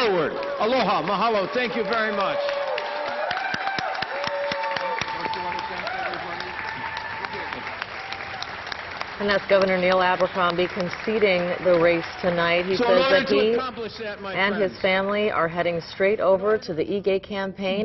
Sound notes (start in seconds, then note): 12.2 applause; 15.1 crowd cheering